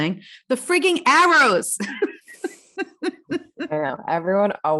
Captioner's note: laughs